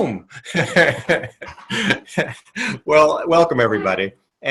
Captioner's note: chuckles